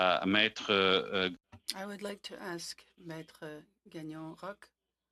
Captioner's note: speaking French